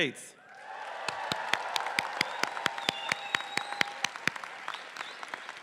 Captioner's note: faculty and audience applauding